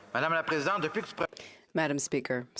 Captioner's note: speaking in French